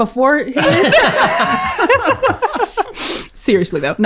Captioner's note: laughing